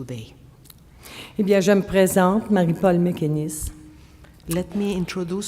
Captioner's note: speaking French